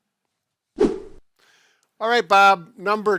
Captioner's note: whooshing